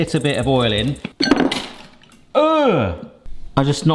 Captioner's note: bowl rattling